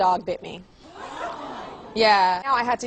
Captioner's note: audience sighs